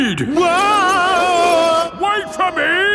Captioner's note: yelling